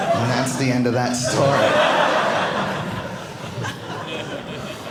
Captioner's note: audience laughing